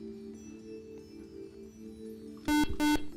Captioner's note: beep